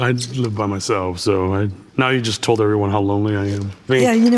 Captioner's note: none